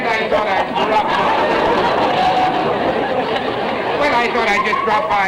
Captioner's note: audience laughter